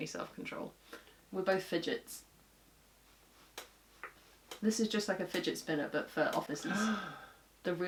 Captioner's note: gasp